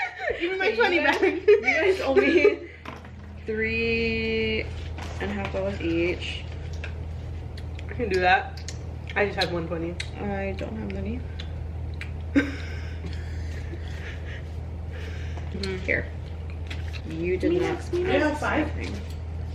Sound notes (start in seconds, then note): 12.3 laughs